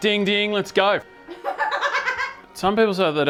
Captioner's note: laughing